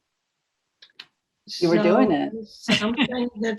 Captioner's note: laughs